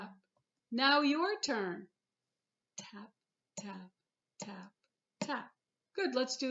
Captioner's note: tap tap tap tap